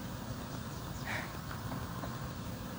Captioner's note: sigh